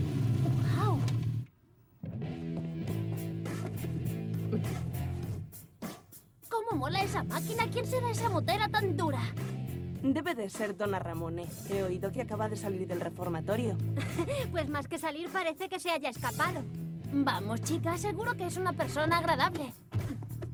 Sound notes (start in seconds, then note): 5.5 gasp